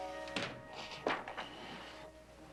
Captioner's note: book hits floor